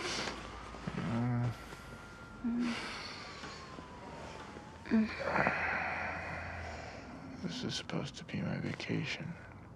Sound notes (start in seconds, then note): 0.1 Tania sniffles; 1.0 Isaac groans; 2.7 Tania sighs; 4.9 Isaac sighs